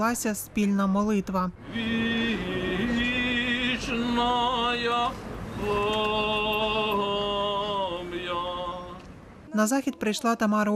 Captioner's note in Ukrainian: Лунає молитва